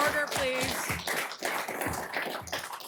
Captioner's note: applause; gavel strike